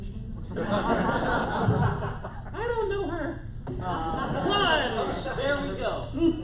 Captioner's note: laughter